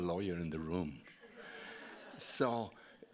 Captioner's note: audience laughing